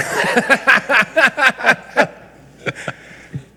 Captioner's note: laughs